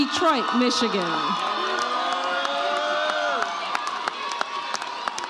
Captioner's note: audience cheers